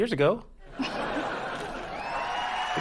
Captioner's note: audience: laugh track; audience: applause